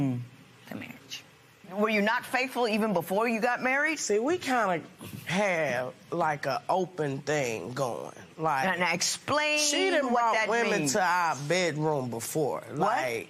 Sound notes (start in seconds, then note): none